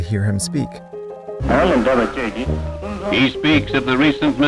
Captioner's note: Dalai Lama speaking foreign language